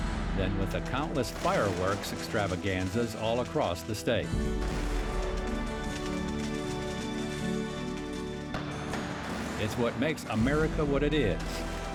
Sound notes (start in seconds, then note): 4.3 fireworks popping; 5.5 gentle music